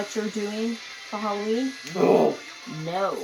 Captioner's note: yelps in low voice